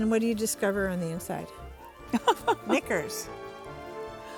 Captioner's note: laughing